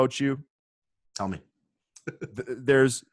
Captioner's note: chuckles